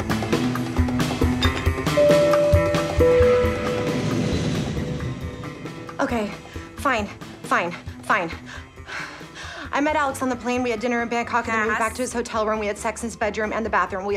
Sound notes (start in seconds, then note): 1.4 chime dinging